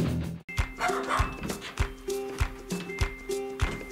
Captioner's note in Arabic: نباح الكلاب